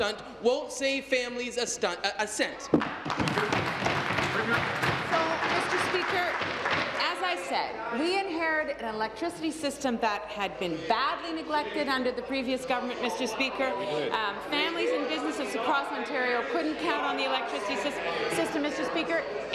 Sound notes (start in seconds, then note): 7.3 applause